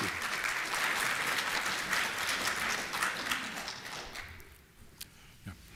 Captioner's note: applause